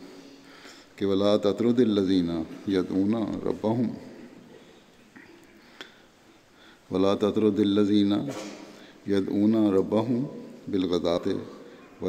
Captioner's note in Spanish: árabe